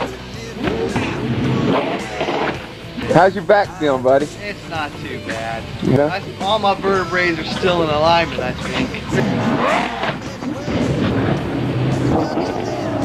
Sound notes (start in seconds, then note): 0.5 more splashing; 9.6 more motor revving